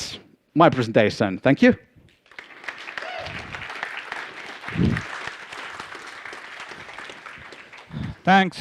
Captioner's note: A round of applause from the audience